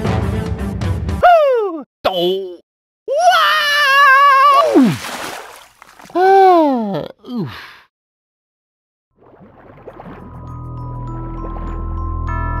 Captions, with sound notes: HOO! D'OHHH! WAAAAaaa-OOF! *Groans* *Eerie music*